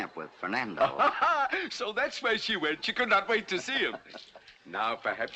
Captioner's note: laughing